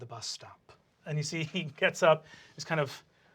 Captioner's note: normal voice